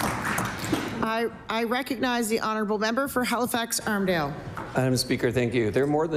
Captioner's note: applause